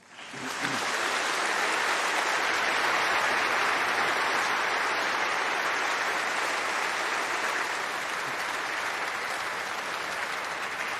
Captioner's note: applause